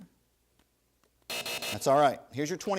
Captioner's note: buzzer